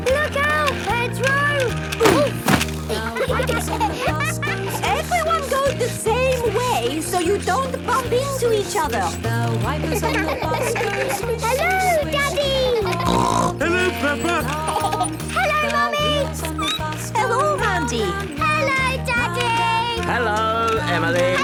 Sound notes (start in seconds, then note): 2.9 laughter; 9.8 laughter; 12.8 snorting; 14.5 laughter; 16.6 squeaking